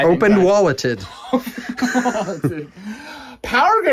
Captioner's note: laughing